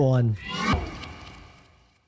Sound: whoosh

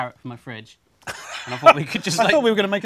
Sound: laughs

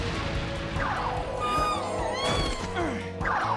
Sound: Latias whines; Ash grunts

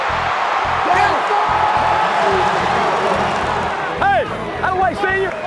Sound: cheering

